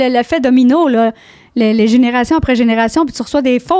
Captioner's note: in french